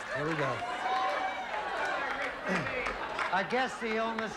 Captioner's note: audience chattering and laughing